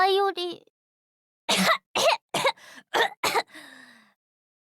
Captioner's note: cough, cough, cough, cough, cough